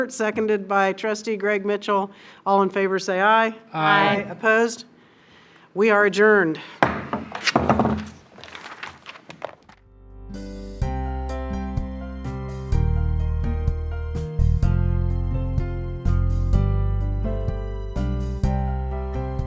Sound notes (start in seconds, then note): 11.7 taps gavel; 16.7 gentle inspirational electronic music